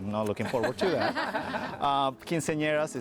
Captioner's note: laughs